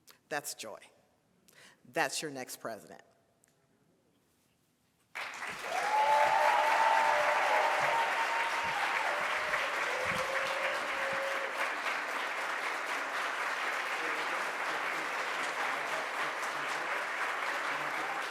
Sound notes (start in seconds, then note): 5.6 audience cheers; 7.3 audience applauds